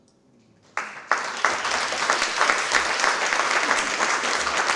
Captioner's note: applause